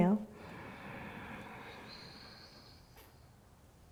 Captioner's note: inhaling